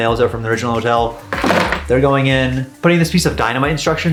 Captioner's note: nails clattering